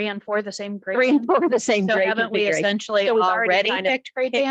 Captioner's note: chuckles